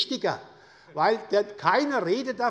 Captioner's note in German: Lachen des Ministers